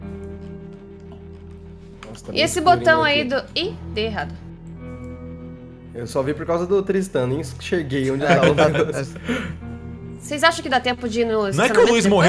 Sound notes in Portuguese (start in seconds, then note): 8.2 risadas